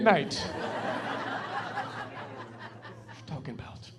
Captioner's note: laughing